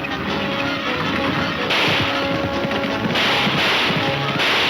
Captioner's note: gunshots banging